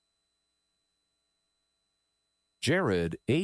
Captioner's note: none